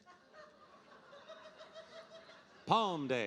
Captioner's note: audience laughing